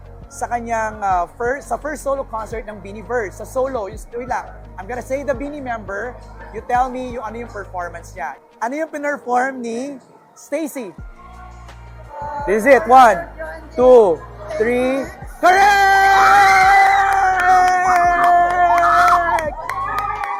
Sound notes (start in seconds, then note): 15.4 loud squealing; 17.0 clapping; 17.4 cheering